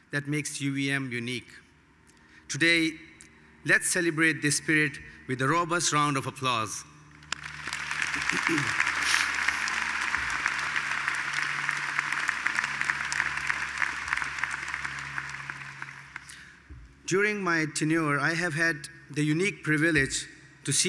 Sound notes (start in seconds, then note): 7.4 attendees applauding